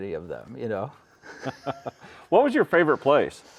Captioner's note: both laughing